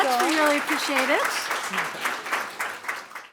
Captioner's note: applause